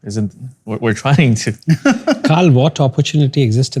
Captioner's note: laughter